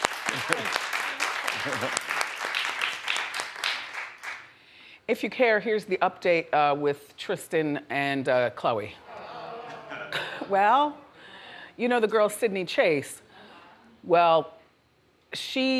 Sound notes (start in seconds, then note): 0.0 audience applauds; 9.4 audience murmurs